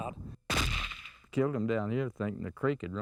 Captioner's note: gunshot